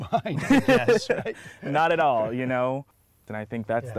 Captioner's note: laughter